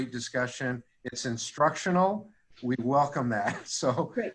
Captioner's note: laughing